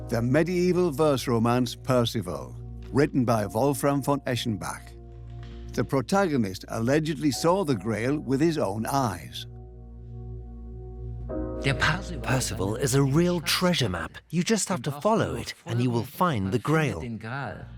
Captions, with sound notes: the medieval verse romance Parzival written by Wolfram von Eschenbach. The protagonist allegedly saw the Grail with his own eyes. (in German) (dubbed in English) Parzival is a treasure map. Follow it and you'll find the Grail.